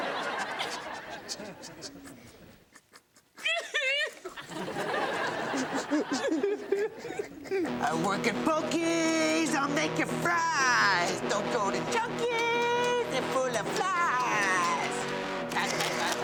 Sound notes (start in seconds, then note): 0.0 audience laughs; 1.3 Eddie sniffles; 3.5 Patty cries; 3.5 audience laughs